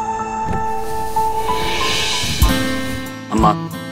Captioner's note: Car's window glass slide down